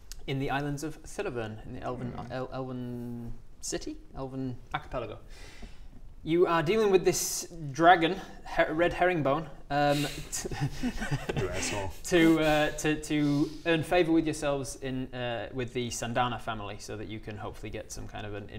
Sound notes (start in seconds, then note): 10.4 laughs in troll